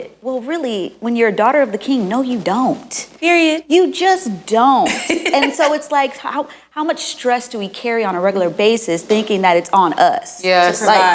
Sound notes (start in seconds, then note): 4.8 laughing